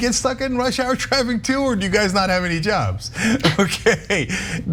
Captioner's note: laugh